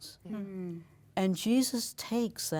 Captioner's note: agreeing in unison